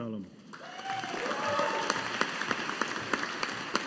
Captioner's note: audience applauding